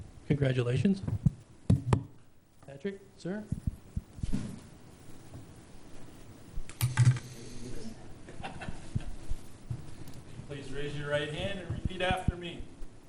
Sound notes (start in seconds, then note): 7.9 murmurs; 8.3 laughs